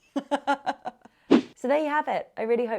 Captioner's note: laughing